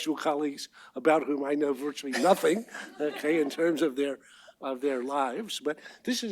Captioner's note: laughter